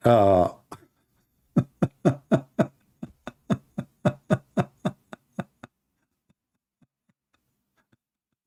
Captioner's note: Ketawa